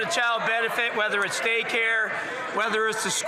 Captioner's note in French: voix de l'interprète